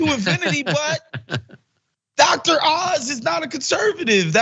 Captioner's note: laugh